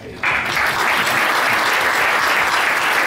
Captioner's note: applause